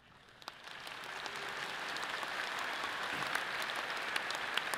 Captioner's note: audience applauds